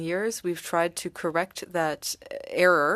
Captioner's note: speaking French